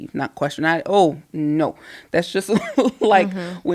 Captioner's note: laughing